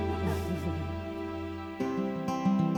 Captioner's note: giggling